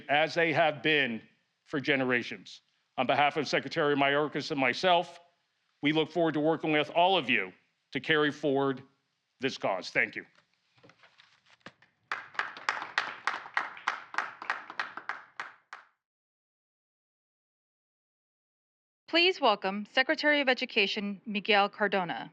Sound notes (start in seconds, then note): 10.4 applause